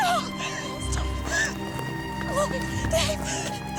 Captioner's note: crying